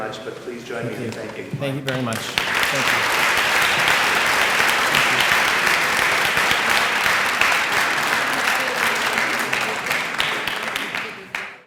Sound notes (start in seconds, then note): 2.9 applause